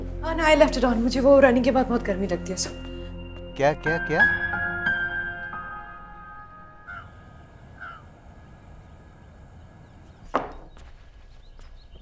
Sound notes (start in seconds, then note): 6.8 Crows cawing; 10.2 Door closes